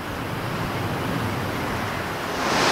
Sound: wind blowing

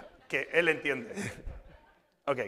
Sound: speaking spanish

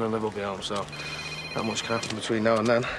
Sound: phone rings

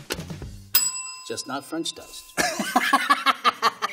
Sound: bell ringing; laughs

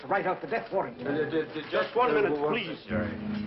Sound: stammering

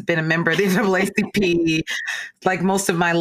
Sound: distorted voice; laughing

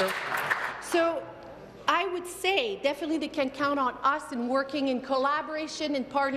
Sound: applause

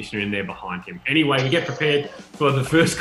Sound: laughing

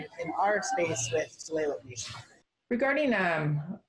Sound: murmurs

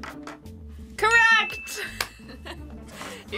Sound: bell rings; both laugh

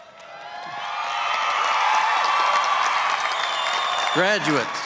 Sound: cheering and applause

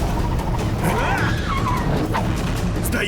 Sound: tires squeal; tense music playing

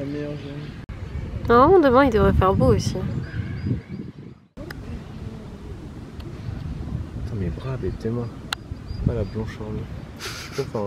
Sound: laughs

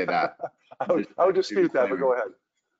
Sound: laughs

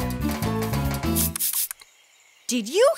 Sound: spraying sound

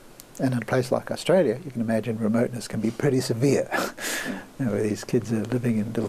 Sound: laughs

